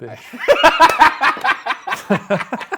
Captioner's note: laughing; laughs